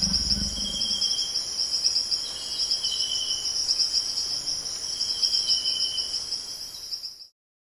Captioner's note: dinosaur grumble; continued ambient jungle sounds